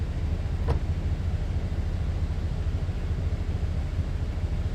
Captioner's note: door clunks